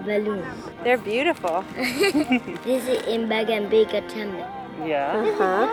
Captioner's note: giggles